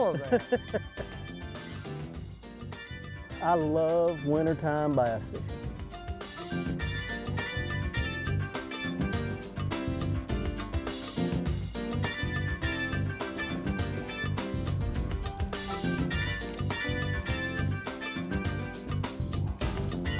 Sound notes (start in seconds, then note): 1.9 laughs; 7.3 country music